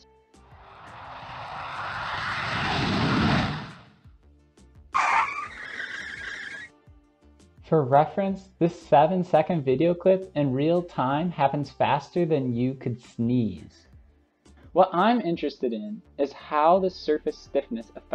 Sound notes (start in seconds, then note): 0.5 sound of jet taking off; 5.0 sound of braking